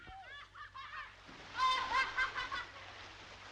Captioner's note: boys laughing